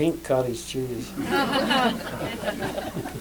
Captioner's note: laughter